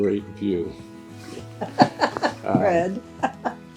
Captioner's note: laughing